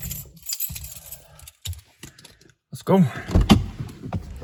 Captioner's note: keys jingling